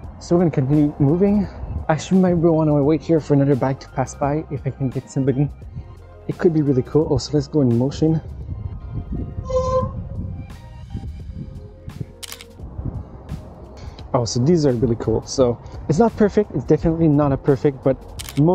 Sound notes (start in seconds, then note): 9.7 brakes screeching; 12.1 camera clicking; 18.1 camera clicking